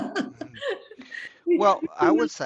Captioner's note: laughs